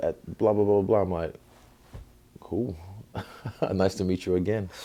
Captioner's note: chuckle